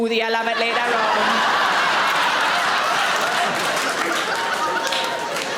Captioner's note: audience laughing